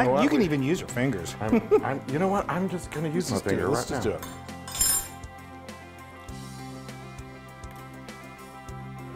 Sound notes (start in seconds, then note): 4.6 forks clattering; 6.0 upbeat rock music